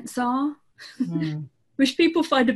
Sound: laughs

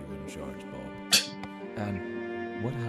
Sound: Musky scoffs

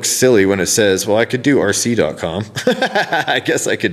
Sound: laughs

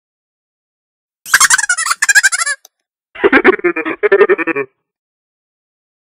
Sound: sound of laughing robot

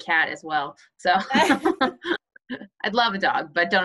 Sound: laughs

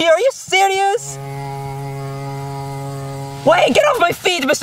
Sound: fly buzzing

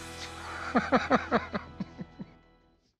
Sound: laughter

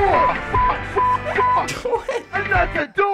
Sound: chuckling

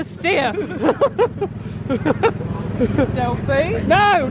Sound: chuckling

